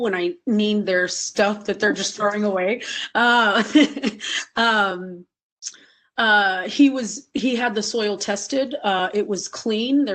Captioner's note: laughing